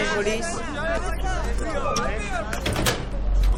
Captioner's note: tumult